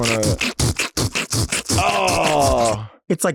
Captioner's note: Delta beatboxes